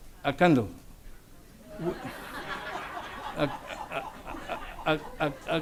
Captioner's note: audience laughs